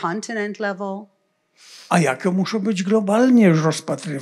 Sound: foreign language

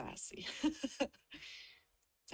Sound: laughs

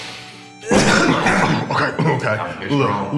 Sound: breathing; coughing

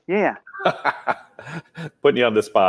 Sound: laughs

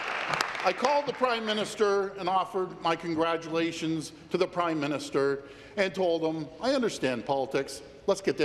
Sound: applause

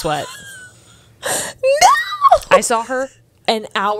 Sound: laughs

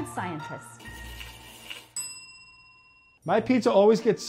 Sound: bell dings

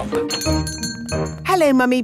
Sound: doorbell chiming

